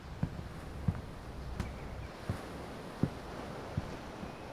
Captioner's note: voices fade; birds chirping; waves crashing